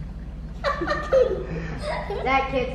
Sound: laughing

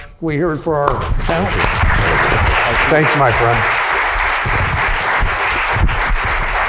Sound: crowd applauds

